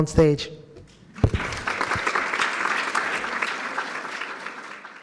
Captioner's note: audience applauds